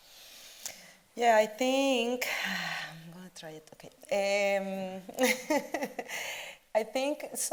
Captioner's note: chuckles